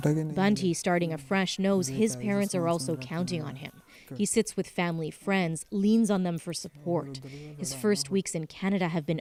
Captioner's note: speaking alternate language